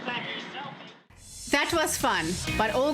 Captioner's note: narrating